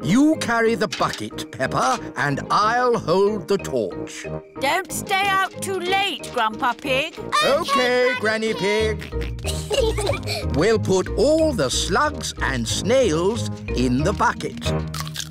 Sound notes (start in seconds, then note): 8.6 peppa and george giggling